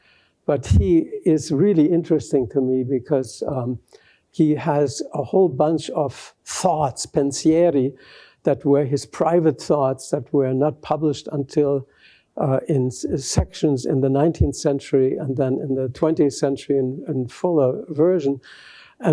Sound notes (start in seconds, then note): 7.0 italian